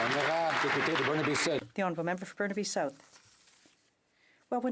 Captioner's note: some Applause